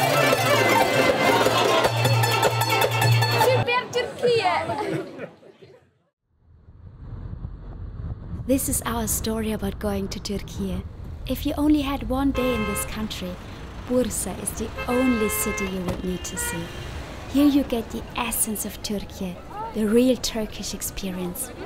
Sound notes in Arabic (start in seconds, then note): 4.5 بالتركية